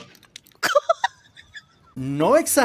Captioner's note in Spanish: laugh cameo